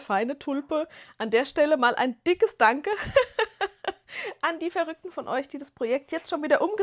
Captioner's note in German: gelächter